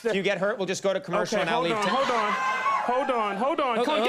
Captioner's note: audience cheering